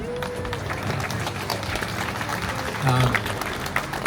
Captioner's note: applause